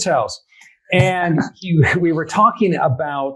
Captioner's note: laughing